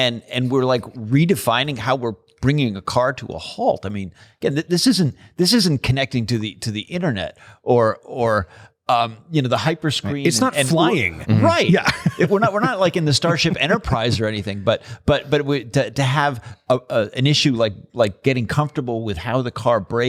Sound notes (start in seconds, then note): 11.5 laughter